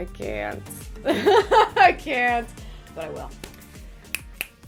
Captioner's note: laughing; snapping